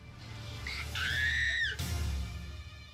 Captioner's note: dramatic scream